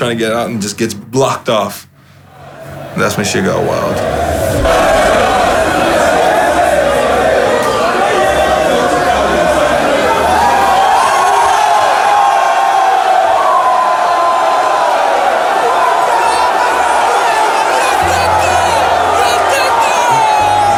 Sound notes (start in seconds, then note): 5.3 loud clamoring; 11.3 all cheering